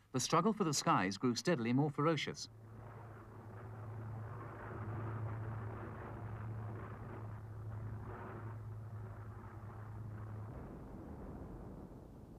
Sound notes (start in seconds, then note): 3.1 airplanes flying